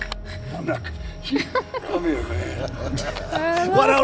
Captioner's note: Michelle laughs